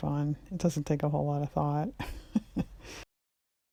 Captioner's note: laughs